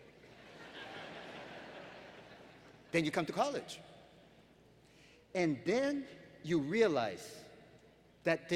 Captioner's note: laughter